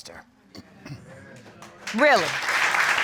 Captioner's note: clears throat